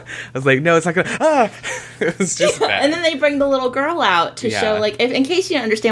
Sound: laughs

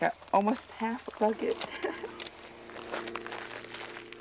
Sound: laughs

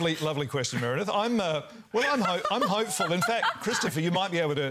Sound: laughter

